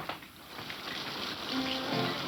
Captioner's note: rain pattering; lively music